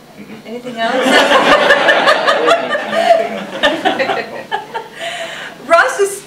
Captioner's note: audience laughing